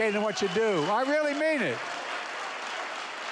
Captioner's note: applause